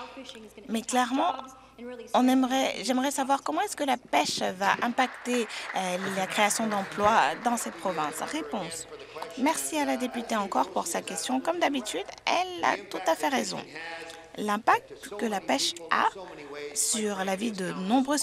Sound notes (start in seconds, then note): 8.7 applause